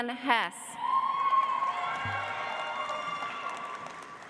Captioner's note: audience applauds